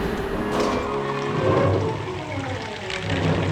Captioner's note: thunder rumbling